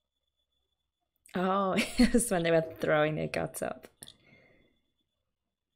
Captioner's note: laughs